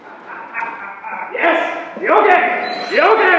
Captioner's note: laughs